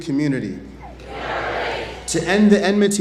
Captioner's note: audience chants "We are ready"